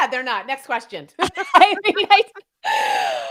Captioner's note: laughing